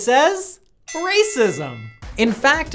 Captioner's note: bell dings